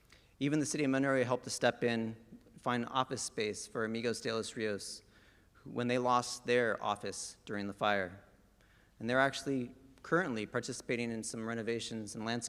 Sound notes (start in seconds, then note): none